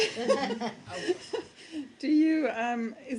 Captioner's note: laughter